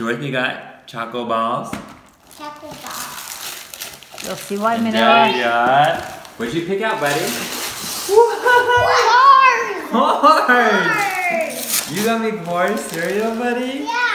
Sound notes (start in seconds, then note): 9.8 laughter